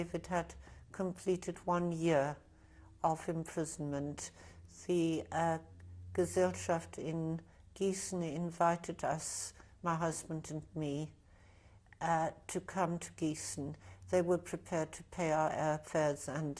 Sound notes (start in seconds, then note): 5.8 german